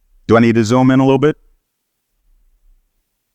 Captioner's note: none